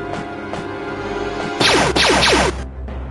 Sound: blaster fire

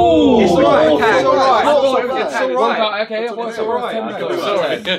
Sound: all chattering

